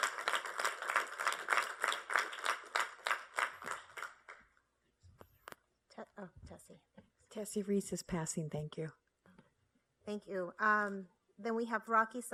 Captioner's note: applause